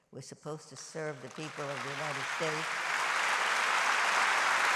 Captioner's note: applause